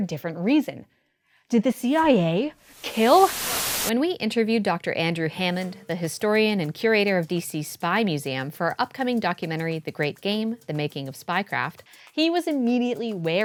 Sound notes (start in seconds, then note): 2.6 static